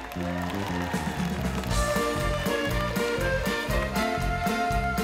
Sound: audience cheering

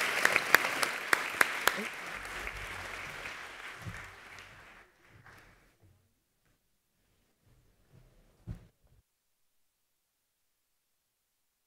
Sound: applause

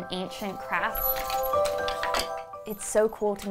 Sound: parts rattle

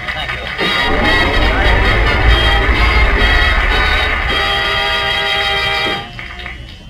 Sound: audience applauds

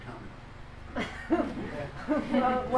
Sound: laughs

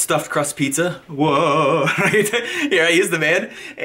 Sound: laughing

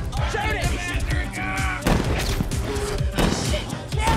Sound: straining

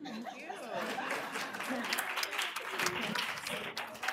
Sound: applause

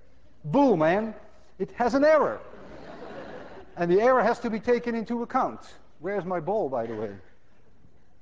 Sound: class laughs

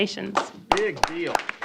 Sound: applause

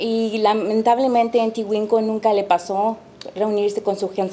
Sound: speaking Spanish

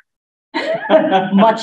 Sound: laughter

